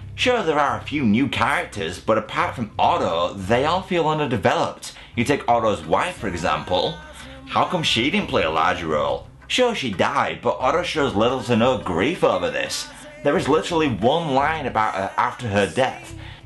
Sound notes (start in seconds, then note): none